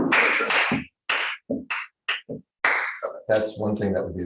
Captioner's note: clapping, stomping